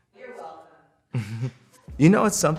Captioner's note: chuckles